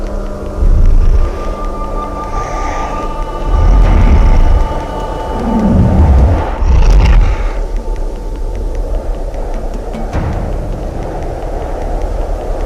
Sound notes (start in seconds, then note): 2.1 bear growling; 9.6 suspenseful music